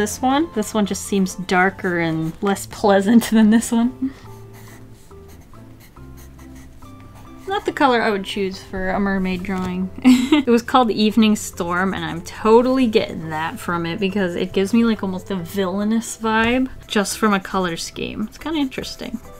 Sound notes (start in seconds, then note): 10.0 laughs